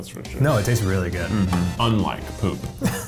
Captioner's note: humming